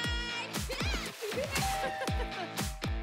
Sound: laughs

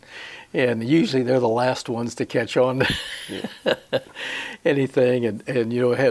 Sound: he chuckles

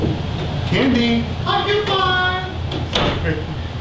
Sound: voice from bathroom

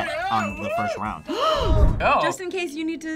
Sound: gasps

